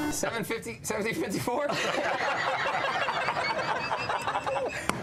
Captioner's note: goofy laughter